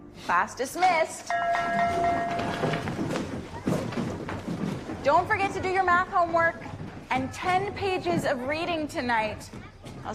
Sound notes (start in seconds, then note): 1.2 rings bell